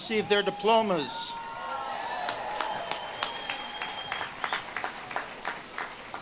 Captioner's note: audience claps and cheers